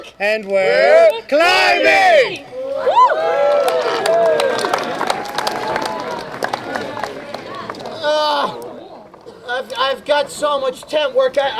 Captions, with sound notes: And we're. Climbing. (crowd cheering) I've got so much tent work,